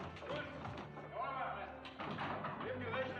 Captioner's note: men Speaking German